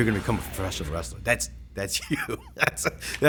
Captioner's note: laugh